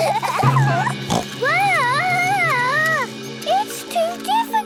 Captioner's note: children giggling; snorts